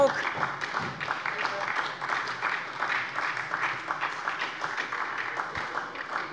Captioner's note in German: Beifall bei der SPD